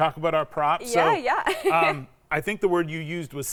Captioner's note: laughs